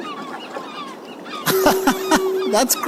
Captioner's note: birds chirping